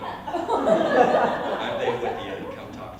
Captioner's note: laughter